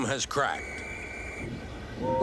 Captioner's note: policeman's whistle blows; toot toot